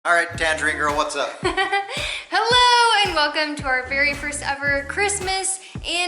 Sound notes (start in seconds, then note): 1.3 laughter